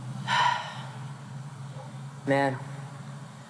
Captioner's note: Monty sighs